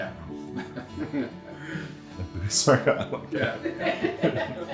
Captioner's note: laughing; indistinct chattering and laughing